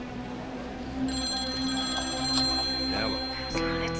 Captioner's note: phone rings